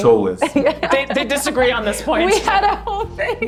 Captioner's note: laughs